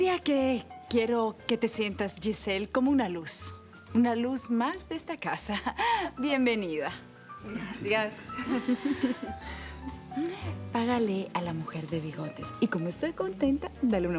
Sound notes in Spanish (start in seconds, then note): 8.3 Risas